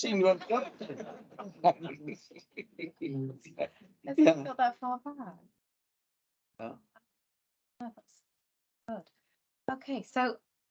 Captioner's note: panel and audience laughs